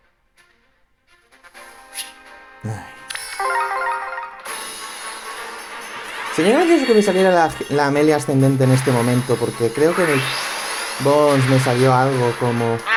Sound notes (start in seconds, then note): 2.6 sigh